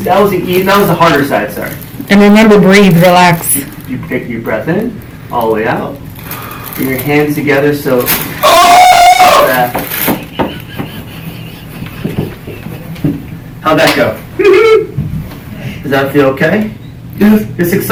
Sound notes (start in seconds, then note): 8.4 screams; 14.6 man hums high pitch